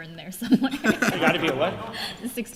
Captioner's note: laughter